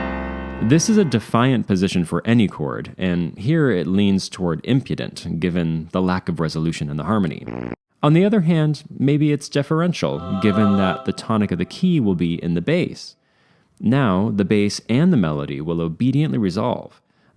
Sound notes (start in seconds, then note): 7.4 raspberry